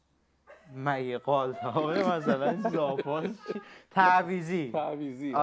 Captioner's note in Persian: خنده